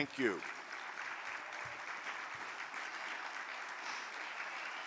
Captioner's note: audience applaud